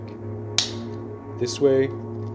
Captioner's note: clipper clicks